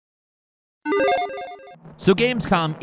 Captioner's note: electronic chiming